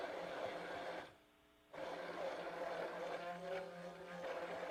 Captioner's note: blender roaring